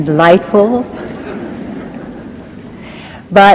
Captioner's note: audience laughing